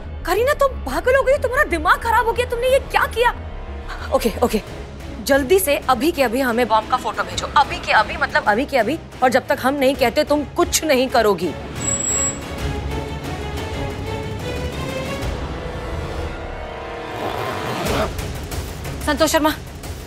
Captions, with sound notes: Kareena, are you insane? Have you lost it? What have you done? Okay! Okay! Please send us a picture of the bomb immediately. Send it right away! And you won't do anything until we ask you to. [dramatic music] [unzipping] Santosh Sharma!